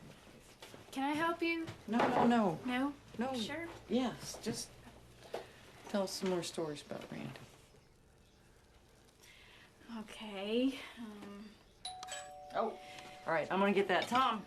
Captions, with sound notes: CAN I HELP YOU? NO, NO, NO. NO? YOU SURE? YES, JUST TELL US SOME MORE STORIES ABOUT RANDY. OK. UM... [DOORBELL RINGS] OH. ALL RIGHT, I'M GONNA GET THAT.